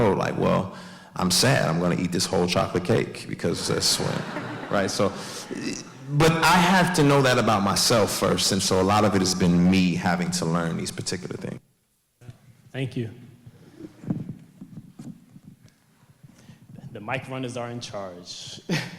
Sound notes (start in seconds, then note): 3.6 audience laughs; 17.0 laughs